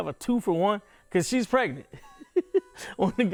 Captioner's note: laughing